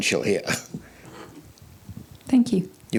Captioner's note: laughs